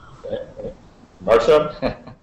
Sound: sighs; laughs

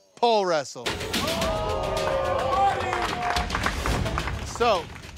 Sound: competitors in audience gasping

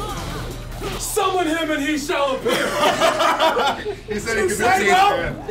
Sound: laugh

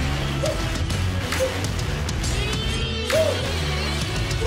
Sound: shouts

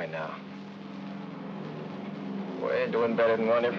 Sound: aircraft rumbles in distance

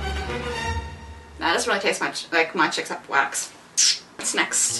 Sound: tongue click

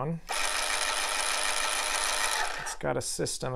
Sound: whirs

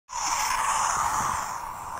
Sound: X-Wing Sound

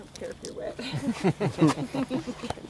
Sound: laughing

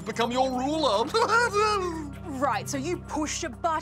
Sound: laughs

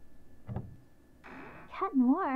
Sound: door opens

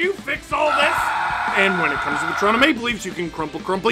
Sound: screaming

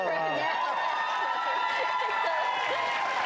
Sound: cheering

